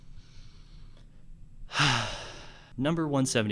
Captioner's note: defeated sigh of defeat